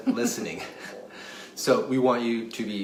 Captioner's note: laughs